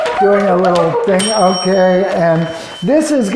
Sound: box beeping; bell rings

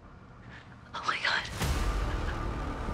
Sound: Kris gasps

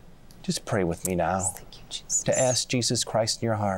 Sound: whispering

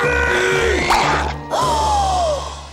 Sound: grunting; popping, gasping

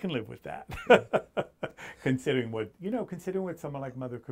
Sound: laughs

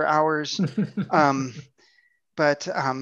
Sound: laughs

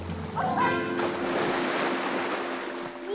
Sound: water splashing

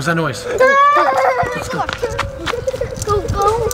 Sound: kids shouting in panic

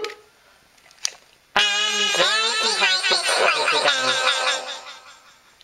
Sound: high-pitch voice

